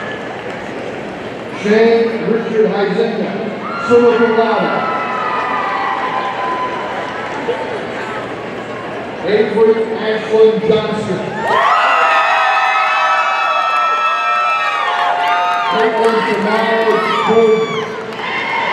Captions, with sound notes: Shane Richard Huizenga, summa cum laude, (audience cheering) Avery Ashlyn Johnston, (audience cheering) Kaitlyn Tamiah Jourdan,